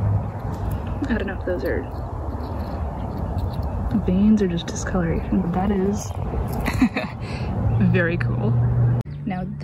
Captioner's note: laughs